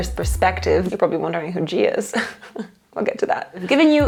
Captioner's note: laughing